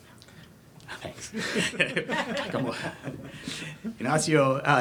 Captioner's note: laughs